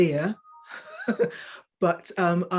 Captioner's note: woman chuckling